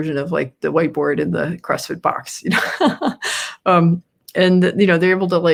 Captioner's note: laughs